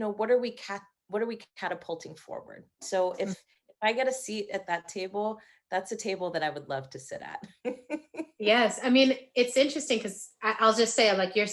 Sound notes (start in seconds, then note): 7.5 laughing